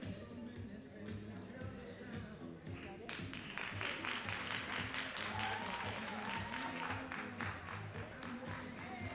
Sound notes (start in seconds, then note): 3.0 all applauding